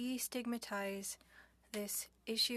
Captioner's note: speaking French